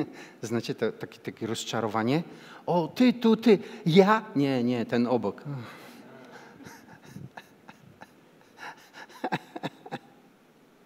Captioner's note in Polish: śmiech